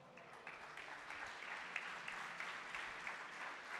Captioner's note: applause